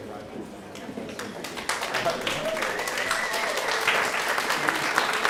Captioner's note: applause